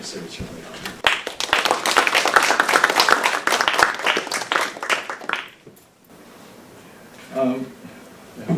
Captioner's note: audience applauding